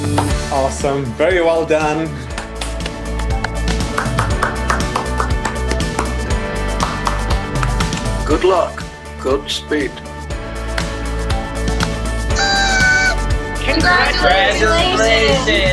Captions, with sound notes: - Awesome, very well done. (applauding) - Good luck, God speed. - Congratulations.